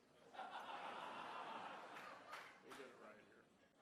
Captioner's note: laughing